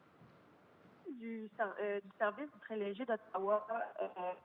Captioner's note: speaks French